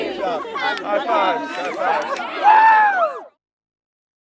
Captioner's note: girls cheer